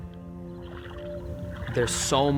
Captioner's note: water sloshing